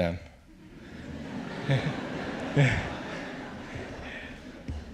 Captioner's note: audience laughs